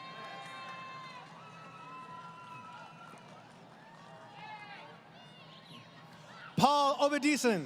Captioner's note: crowd Cheering